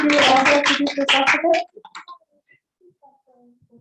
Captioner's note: applause